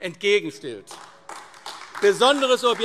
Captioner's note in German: Beifall AfD - Zurufe